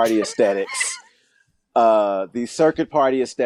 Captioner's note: laughing